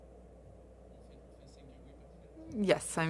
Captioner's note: speaking French